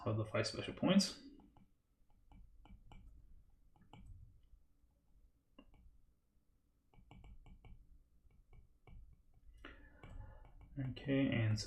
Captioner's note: typing